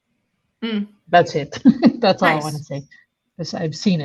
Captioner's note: laughs